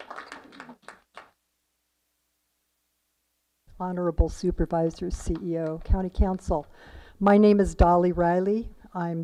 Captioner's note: applause